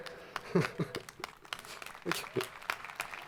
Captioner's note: crowd applauding